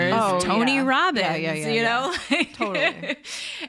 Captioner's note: laughs